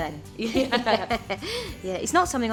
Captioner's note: both laughing